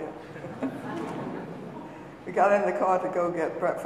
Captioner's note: audience laughing